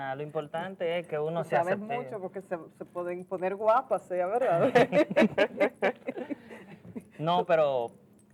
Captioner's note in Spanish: risas